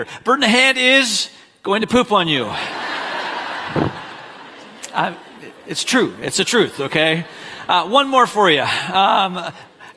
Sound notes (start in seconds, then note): 2.5 congregation laughing